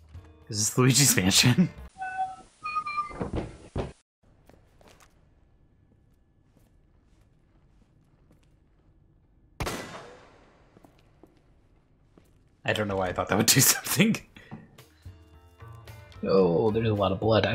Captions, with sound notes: Is this Luigi's Mansion? (Luigi's Mansion Door Opening Sound Effect) (bullet pops) I don't know why I thought that would do something. Oh, there's a lot of blood.